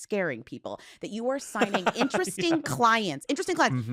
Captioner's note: laughs